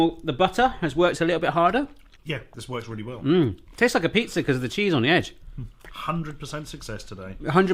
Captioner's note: none